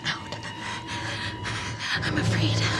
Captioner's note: heavy breathing